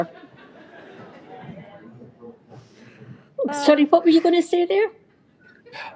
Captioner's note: laughter